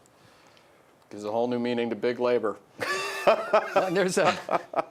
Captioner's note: voiceover; laughing